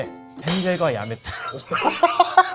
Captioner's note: laughter